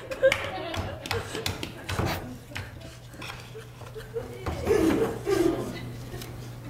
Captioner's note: laughter